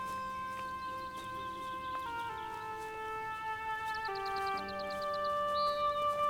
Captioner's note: birds chirping; dramatic music